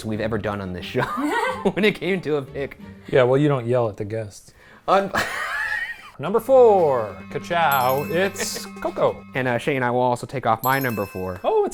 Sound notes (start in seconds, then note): 5.1 laughing